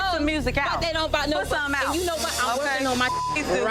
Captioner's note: beep